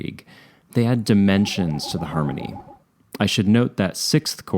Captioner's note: sci-fi pulsing